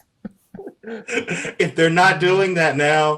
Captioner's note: Desi laughs loudly; Eric laughs